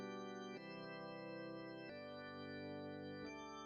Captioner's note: whispering